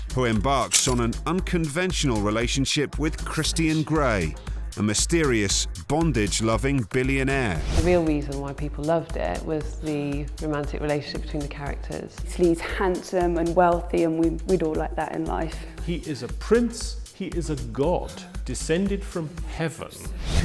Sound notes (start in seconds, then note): none